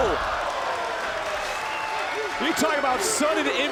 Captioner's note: crowd cheers